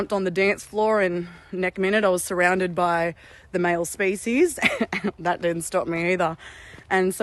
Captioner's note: laughter